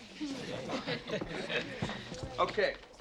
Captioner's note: class chuckling